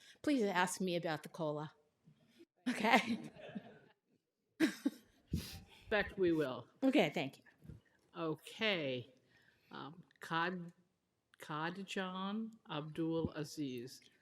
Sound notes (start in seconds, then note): 2.6 laughter